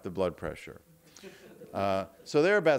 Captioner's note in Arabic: يضحك الجمهور